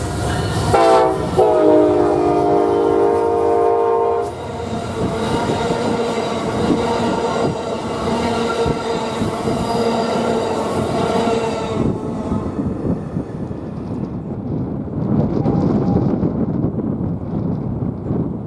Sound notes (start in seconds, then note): 6.4 train